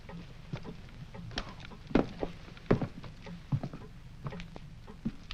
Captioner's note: heavy footfalls